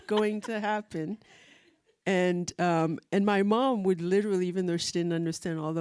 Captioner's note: laughs